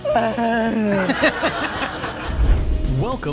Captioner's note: cries; laughing; audience laughing